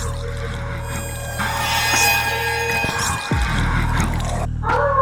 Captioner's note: whisper